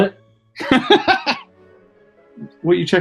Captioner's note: laughing